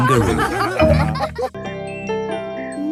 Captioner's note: all laughing